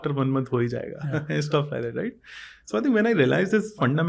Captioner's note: speaks in Hindi